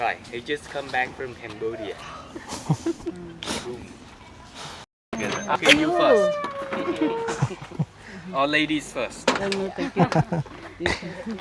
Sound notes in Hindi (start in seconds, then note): 5.7 नाक से की जाने वाली आवाज़; 9.6 हंसी